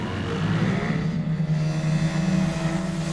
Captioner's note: engine whines